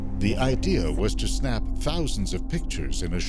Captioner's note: voiceover